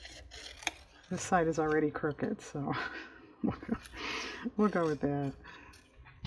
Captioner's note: laughs